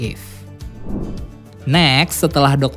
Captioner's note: transition sound